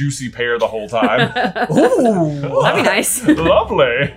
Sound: laughing

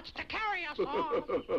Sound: laughs

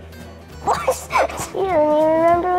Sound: laughs

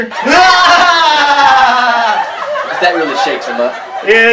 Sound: laughter

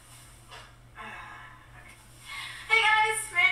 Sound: Natalie in video sighs

